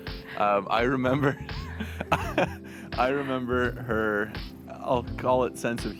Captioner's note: chuckles